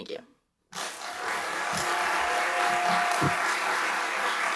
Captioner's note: applause